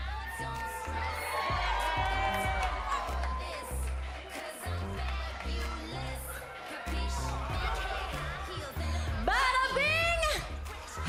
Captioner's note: cheers and applause